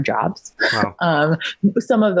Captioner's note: chuckles